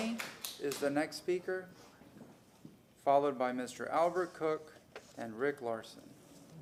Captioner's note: applause